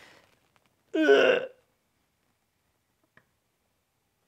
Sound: grunts

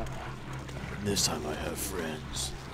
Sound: lowers voice

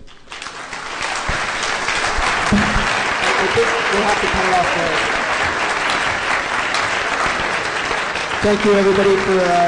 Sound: applause

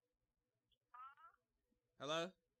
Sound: crackling talking

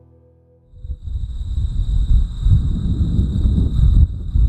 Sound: wind whooshing

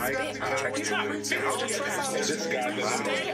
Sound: clamoring

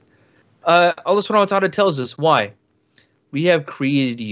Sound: speaks in foreign language

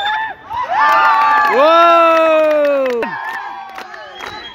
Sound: applause

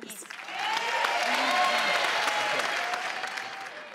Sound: crowd applauds

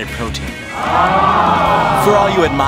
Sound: crowd 'aww'ing

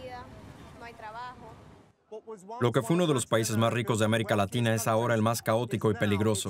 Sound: speaks in foreign language

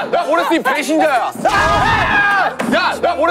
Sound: arrrrrrrgh!

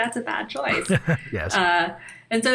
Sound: chuckle

